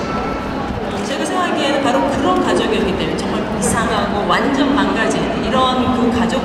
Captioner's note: speaking Korean